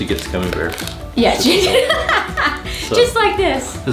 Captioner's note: laughs